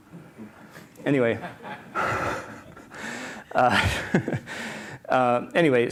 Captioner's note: laughter